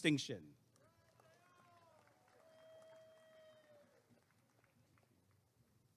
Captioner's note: applause and cheering